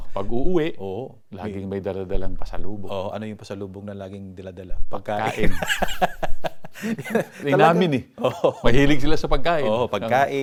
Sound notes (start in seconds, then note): 5.2 both laughs